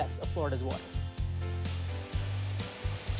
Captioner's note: water splashing